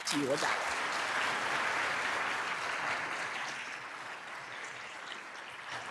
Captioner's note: applause